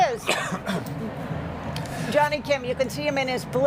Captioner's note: coughing